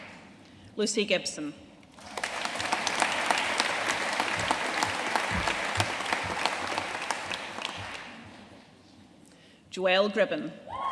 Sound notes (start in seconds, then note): 1.9 audience applauding